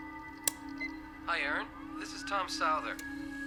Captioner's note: machine beeping